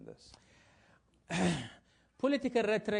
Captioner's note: cough